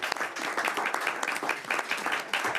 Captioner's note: applause